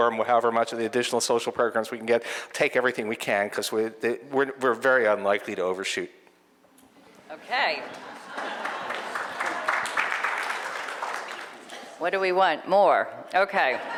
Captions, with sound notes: and will however much of the additional social programs we can get, take everything we can because we're very unlikely to overshoot. (audience applauding) - What do we want more?